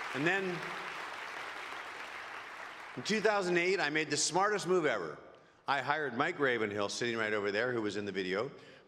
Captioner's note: applause